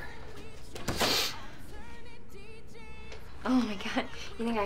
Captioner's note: Ashley sniffling over door rattling